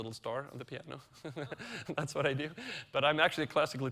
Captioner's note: chuckles